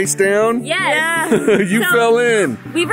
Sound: laughs

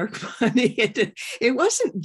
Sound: laughter

